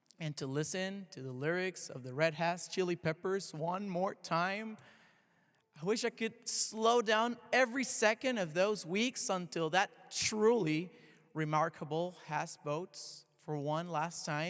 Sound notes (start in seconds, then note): none